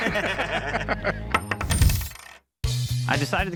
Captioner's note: both laugh; coin jangles